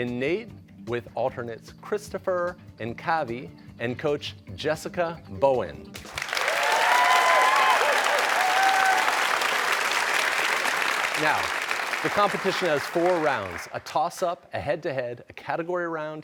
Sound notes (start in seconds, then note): 6.0 cheers and applause